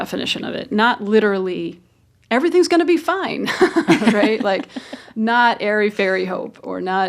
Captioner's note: laughter